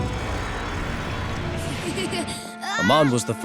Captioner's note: laughing